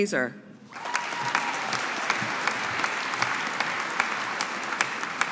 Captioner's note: audience applauding